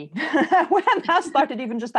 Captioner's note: laughs loudly